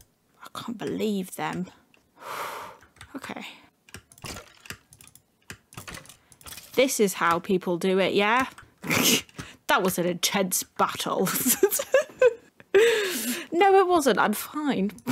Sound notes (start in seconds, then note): 2.1 deep breath; 8.6 laugh